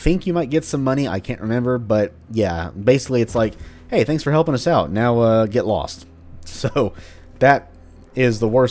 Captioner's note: chuckles